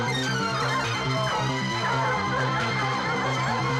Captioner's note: dogs barking